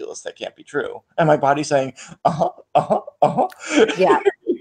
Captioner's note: laughs